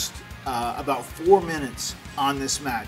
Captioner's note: none